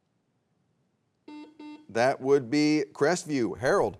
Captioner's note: buzzer beeps